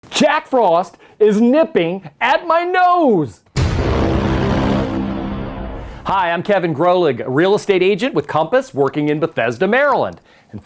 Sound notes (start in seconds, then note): 3.6 stamp pounds